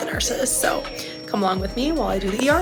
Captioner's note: defibrillator ringing